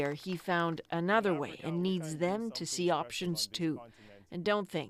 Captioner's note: applause